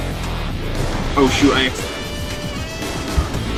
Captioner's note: sneeze